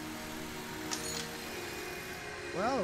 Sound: tool clinking

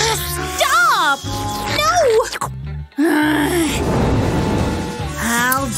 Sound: making angry sounds

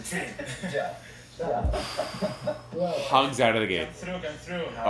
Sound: deep breath

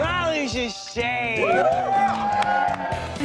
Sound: cheering

